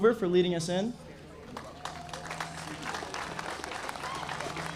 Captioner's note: audience applauding